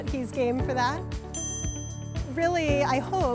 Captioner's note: bell chimes